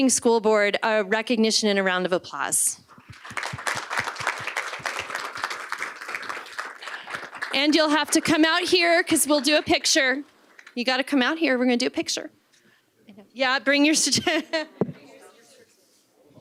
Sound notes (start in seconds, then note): 8.5 applause